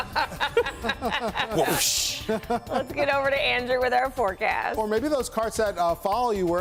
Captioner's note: laughter